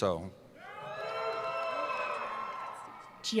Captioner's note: cheering